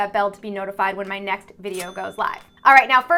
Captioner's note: cash register rings